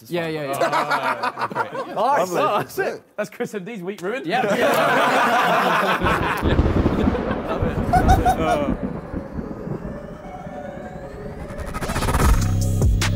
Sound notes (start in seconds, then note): 0.4 all laughing; 4.3 all laughing; 9.9 bright upbeat music